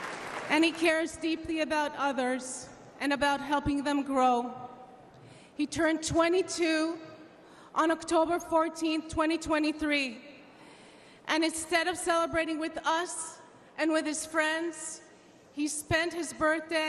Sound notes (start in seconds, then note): 1.6 applause